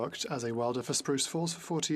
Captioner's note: speaking FRENCH